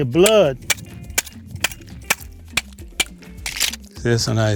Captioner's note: tool clinking